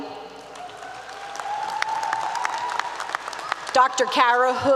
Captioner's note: applause 👏 👏